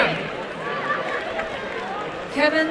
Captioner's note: applause and cheering